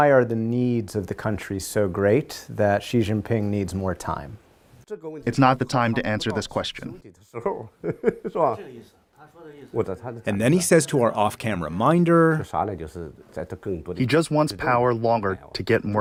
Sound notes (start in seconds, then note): 5.2 speaking foreign language; 9.2 speaking foreign language; 13.0 speaking foreign language